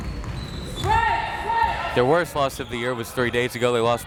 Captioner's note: crowd members shouting